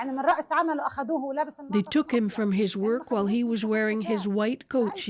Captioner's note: speaking alternate language